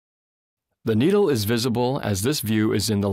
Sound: voiceover

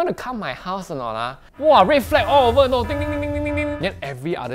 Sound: alarm noises

